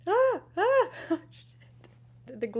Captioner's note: laughing